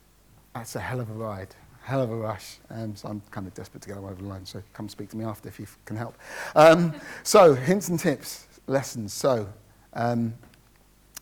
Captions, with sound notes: That's a hell of a ride, hell of a rush, and so I'm kind of desperate to go over the line, so come speak to me after if you've, can help. (light laughter from the audience) So, hints and tips, lessons: So,